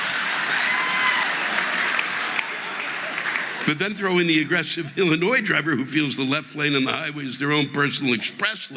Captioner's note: audience laughing